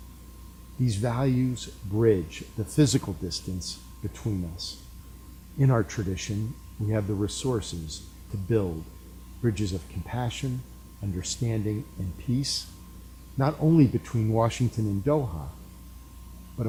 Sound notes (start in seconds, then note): none